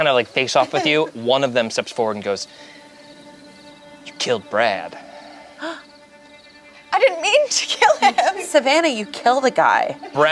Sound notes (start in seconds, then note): 5.5 gasps